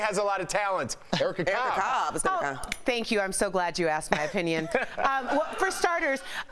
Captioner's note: laughter